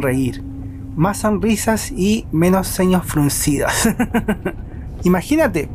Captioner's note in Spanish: risas